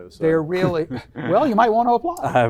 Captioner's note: chuckles; laughs